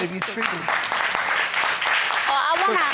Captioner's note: audience applauding